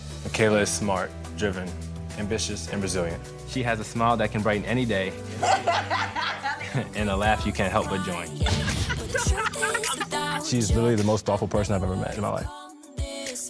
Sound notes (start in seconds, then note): 5.3 both laughing; 8.4 laughing